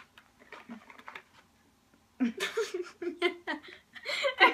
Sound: both Laughing

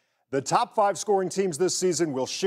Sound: none

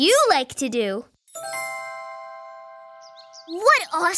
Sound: bells chiming

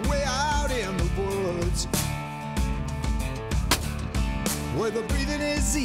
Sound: gunshot

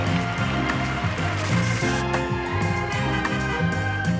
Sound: TV buzzes; car honks; upbeat music continues

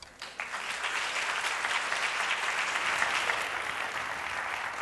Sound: applause

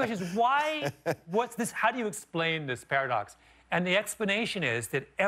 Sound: laughter

